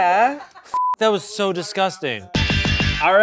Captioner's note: beep; upbeat music